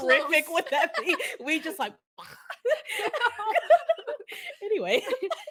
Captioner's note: makes a veering motion and crash sound